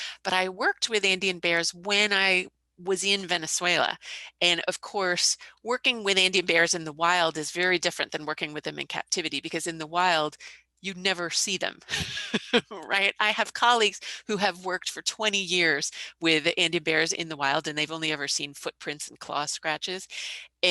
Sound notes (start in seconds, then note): 11.9 laughing